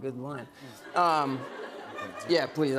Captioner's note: laughter